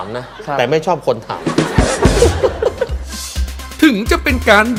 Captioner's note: laughter